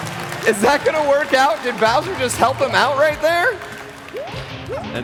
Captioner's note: applause